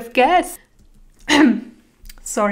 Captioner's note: clears throat